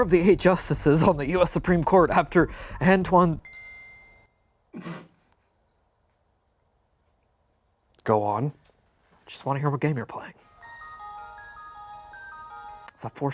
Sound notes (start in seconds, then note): 3.5 game chimes; 10.5 gentle chiming music